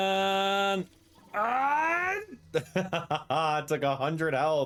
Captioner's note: laughs